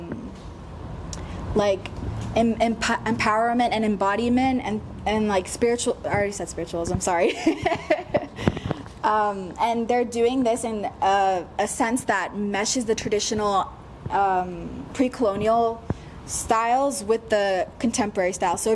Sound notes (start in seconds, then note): 7.3 laughs